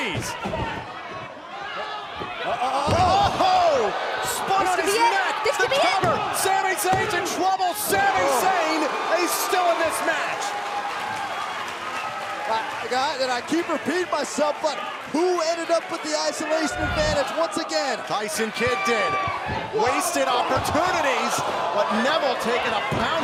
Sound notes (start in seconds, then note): 10.9 cheers & applause